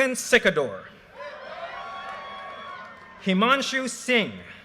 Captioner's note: audience cheers and applause